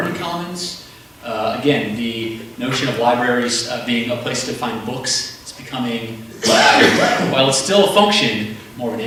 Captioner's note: cough